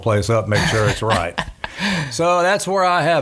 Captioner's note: laughing